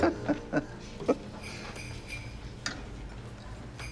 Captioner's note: Dad laughs; bells jingling